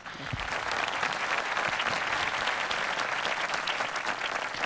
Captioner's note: audience applauding